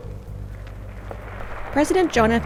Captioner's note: applause